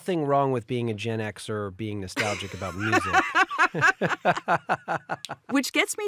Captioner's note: both laughing